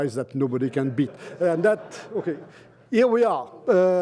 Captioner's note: laughter